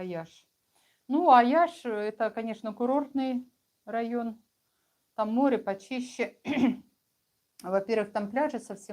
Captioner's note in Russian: откашливается